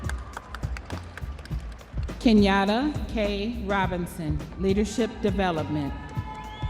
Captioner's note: audience applauding